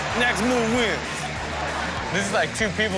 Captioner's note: audience laughs